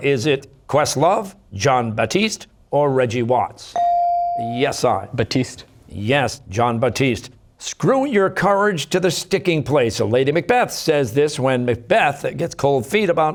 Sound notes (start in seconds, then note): none